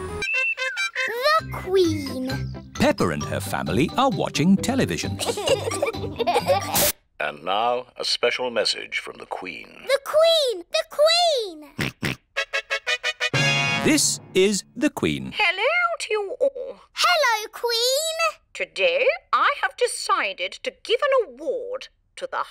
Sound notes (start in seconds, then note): 5.2 both giggling; 12.0 snorts; 12.4 trumpet fanfare on tv